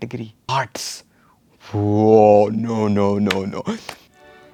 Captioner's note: muffles cries of Indian parents